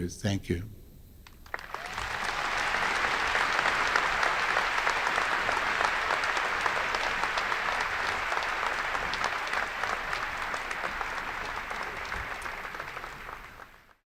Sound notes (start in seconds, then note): 1.2 applause